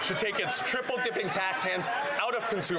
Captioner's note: applause